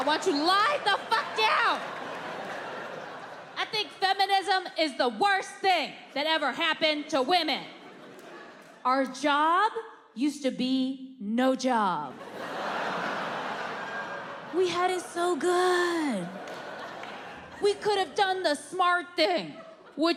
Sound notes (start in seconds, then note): 1.9 audience laughing; 12.2 audience laughing